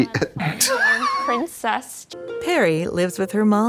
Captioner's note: blonde Women swish